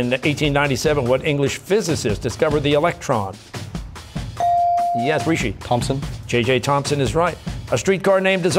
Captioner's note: none